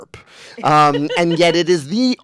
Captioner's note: laughing